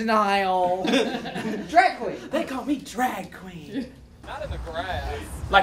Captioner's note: laughter